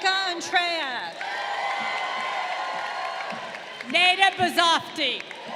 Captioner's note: crowd cheering